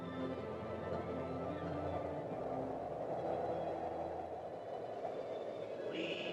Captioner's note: uplifting music; wind blowing; voice whispers